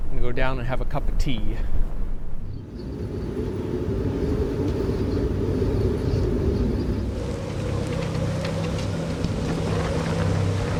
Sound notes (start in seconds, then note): 2.2 wind whistling; 2.4 birds chirping; 7.2 tense music